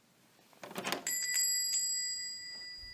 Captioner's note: door opens, bells chime